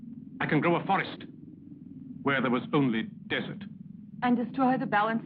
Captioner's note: none